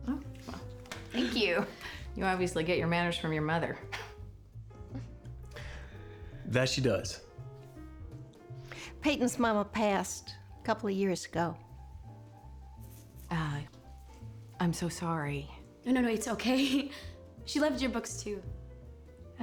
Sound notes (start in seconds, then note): 4.1 chuckles